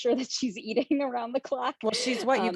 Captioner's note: chuckles